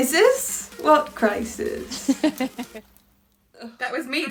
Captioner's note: Sketch audio plays